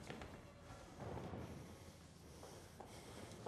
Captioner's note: breathing heavily